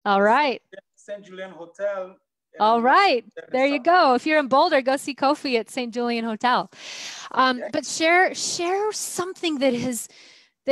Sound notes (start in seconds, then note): none